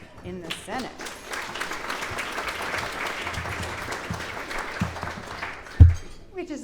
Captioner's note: clapping